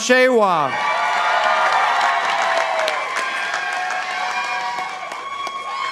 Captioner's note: participants applauding